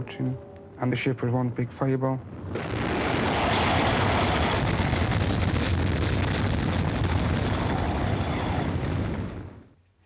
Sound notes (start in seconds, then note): 2.2 fire roaring